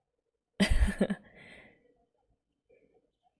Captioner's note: laughs